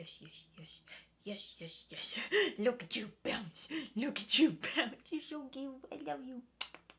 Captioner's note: kisses